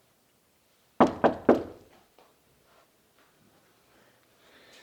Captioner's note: Faun knocking on door